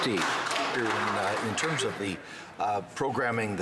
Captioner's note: some Applause